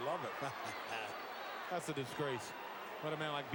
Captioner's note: laugh